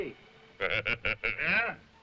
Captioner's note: Gregory laughing